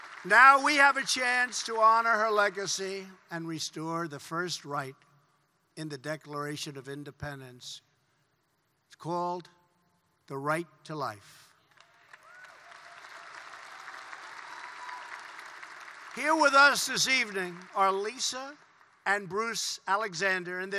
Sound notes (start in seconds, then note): 0.0 applause; 11.6 applause